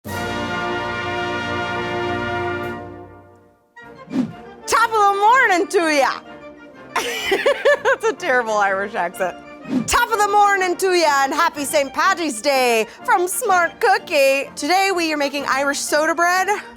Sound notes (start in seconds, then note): 0.0 loud trumpet music; 6.9 laughter